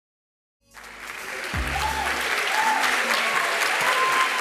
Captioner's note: audience applauding